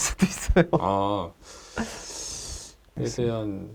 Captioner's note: the teacher's deep sigh